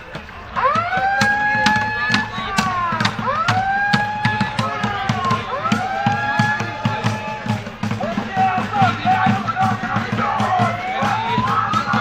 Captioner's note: airhorn